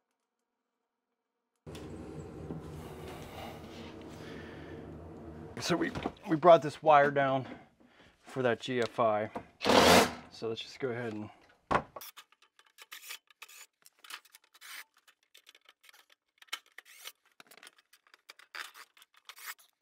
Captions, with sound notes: So we brought this wire down for that GFI, (drill whirring) so let's just go ahead and... (drill fast-forwarding)